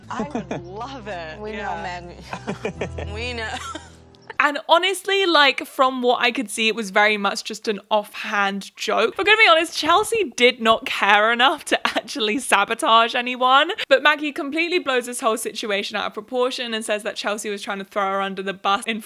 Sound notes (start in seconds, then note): 1.7 laughs; 2.2 Prince Harry laughs